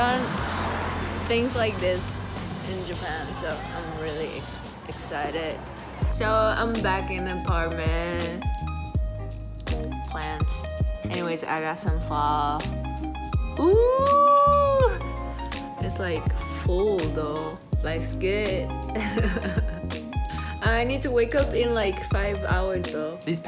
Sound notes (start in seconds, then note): 13.6 exclaiming; 20.2 laughs